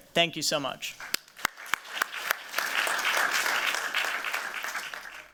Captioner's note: applause